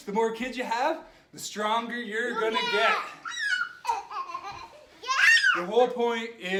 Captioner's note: kids squeal